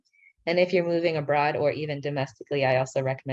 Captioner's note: speaking in foreign language